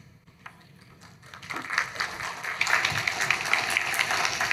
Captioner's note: applause